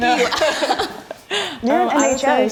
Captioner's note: laughing